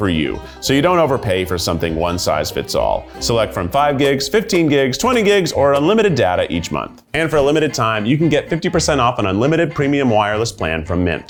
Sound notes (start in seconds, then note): 3.5 graphics swishing; 7.4 graphics whooshing